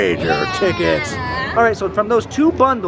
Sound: cheering

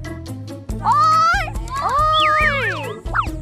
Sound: sending out sound signals

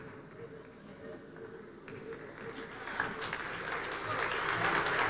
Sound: applause

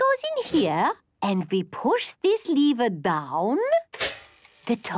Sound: clicks

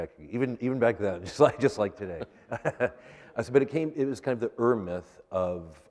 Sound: laughter

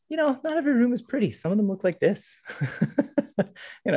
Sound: laughs

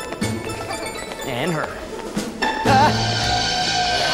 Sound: gasps

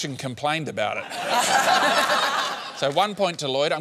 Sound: laughter

